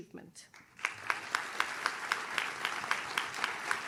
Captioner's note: audience claps